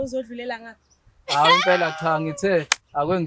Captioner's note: lough out loud